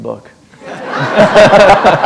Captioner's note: laughter